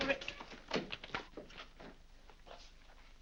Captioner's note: door opens